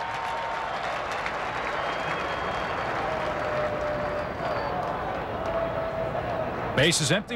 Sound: crowd cheering

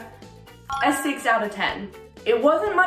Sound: bell chiming

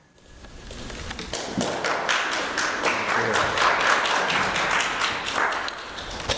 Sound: applause

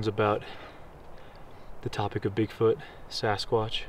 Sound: none

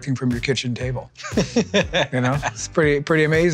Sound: laughs

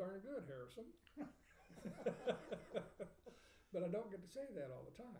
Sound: laughing

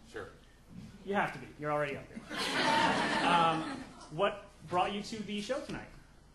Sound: audience laughing

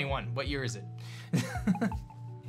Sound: laughs

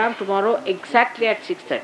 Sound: Shri Mataji speaks in Hindi a few words

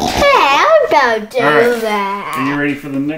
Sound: snort

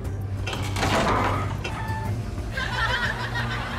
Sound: door creaks; audience laughs

